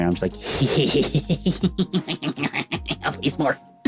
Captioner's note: laughing